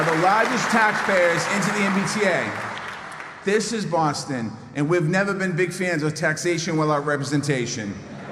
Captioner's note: applause